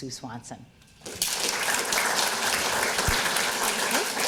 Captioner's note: audience applauding